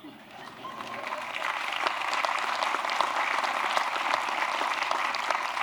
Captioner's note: applause